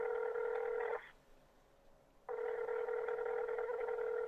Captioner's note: dial tone